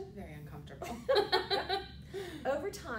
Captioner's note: laughter